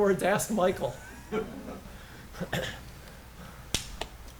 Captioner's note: laughter